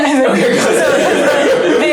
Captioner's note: laughter